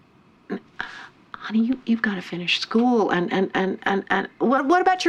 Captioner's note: stutters